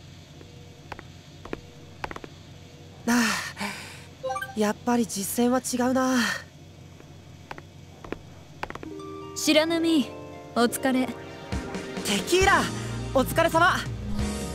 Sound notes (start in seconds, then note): 3.2 sigh